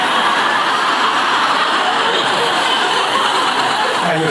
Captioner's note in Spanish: Risas